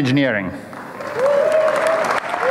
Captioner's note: applause